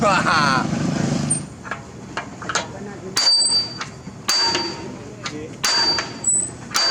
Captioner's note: hammer Hitting